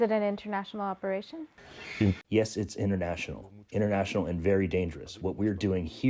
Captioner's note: through translator